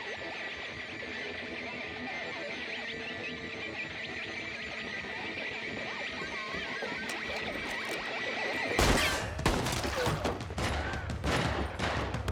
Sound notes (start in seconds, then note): 8.8 gunfire continues